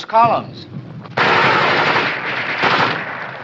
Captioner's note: machine gun fires